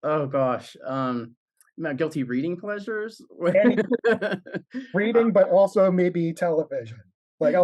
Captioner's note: laughs